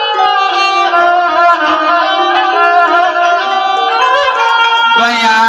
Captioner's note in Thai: ปรบมือ